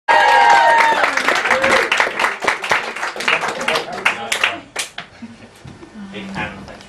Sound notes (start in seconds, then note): 0.0 cheering